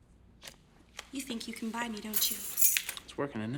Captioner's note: keys jangling